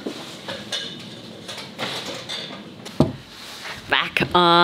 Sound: ladder creaking

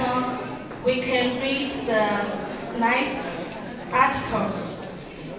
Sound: speaking in Mandarin

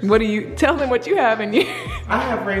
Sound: laughs

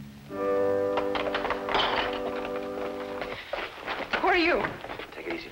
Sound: door latch rattles

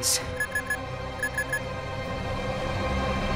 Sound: beeping

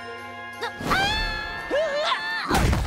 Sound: screaming; thudding

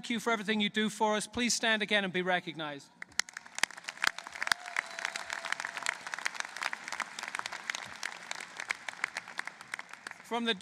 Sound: applause

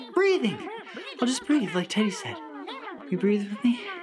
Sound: critters yelling and mumbling

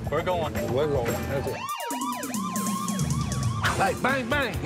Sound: siren wailing

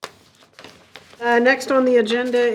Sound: paper crackling

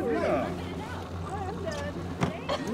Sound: fish splashing

